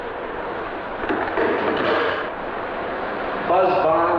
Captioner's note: receiver clacking